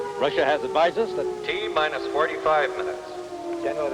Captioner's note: man on PA